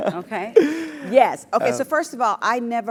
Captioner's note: laugh